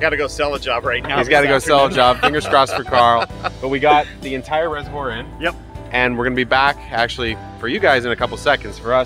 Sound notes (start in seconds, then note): 1.2 laughing